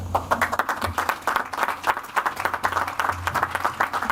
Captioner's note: audience applauds